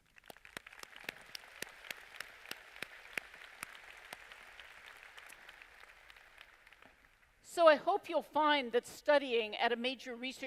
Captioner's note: applause